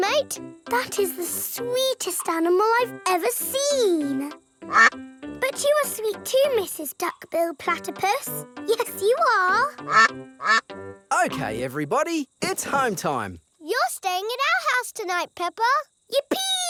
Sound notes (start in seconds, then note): 4.7 quacks; 9.6 quacking